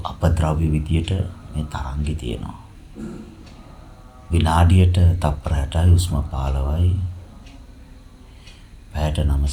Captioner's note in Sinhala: උගුර කෑරීම